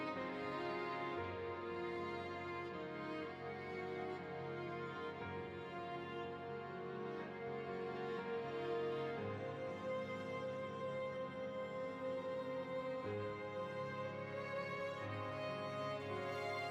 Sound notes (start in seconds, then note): none